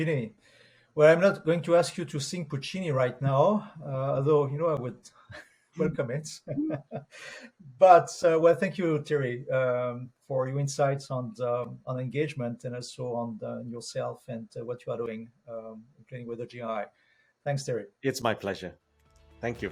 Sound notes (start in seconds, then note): 5.8 chuckles; 5.8 chuckling